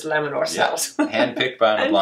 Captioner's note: laughs